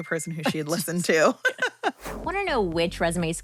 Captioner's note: laughing